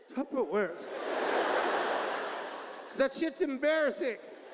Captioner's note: audience laughs